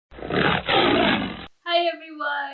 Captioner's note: tiger roars